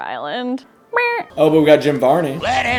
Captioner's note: making cat noise